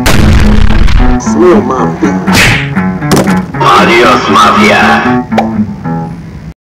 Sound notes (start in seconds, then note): 0.0 boom; 2.3 fist Punch; 5.3 pop